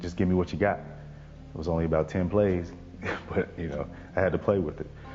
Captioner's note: laughs